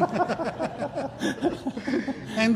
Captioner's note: laughter